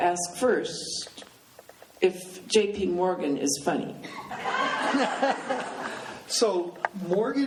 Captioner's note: laughing